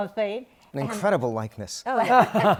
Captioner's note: laughter